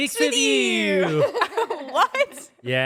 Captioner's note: everyone laughs